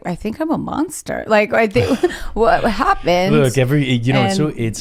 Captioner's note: sighs; chuckles